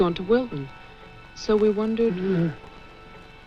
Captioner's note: strained, soft groan